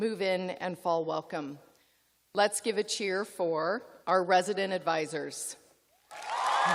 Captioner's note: cheers and applause